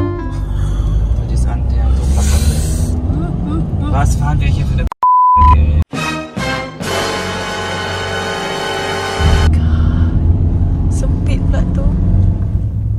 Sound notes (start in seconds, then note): 0.4 speaking German; 3.2 toot